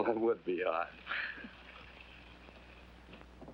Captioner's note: both chuckling